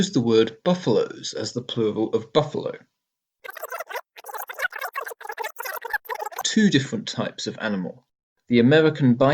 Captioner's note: rewind